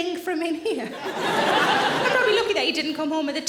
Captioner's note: audience laughing